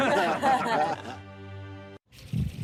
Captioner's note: all laughing